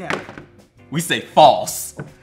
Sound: paddle bat bangs

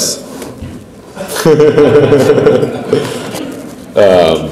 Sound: laughs

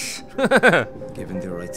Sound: laughs; voiceover

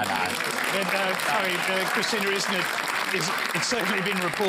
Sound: applause

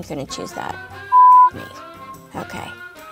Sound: beep

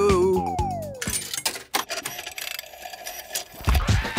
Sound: clicks, whirring; hip hop music plays

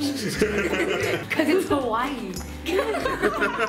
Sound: laughs

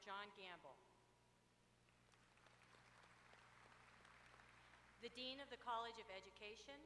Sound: applause

